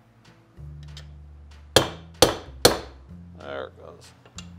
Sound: hammer pounding

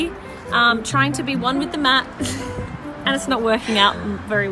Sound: laughs

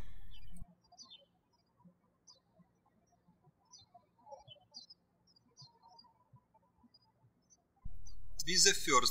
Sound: birds chirping

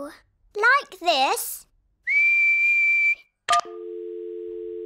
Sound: whistles; dial tone beeping

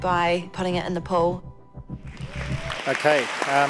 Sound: audience clapping

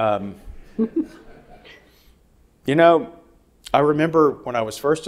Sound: audience laughing

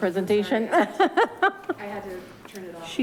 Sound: woman laughs

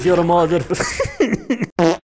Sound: laughs

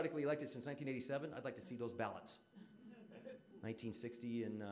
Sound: audience laughing

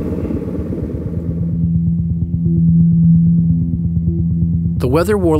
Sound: throbbing vibrations

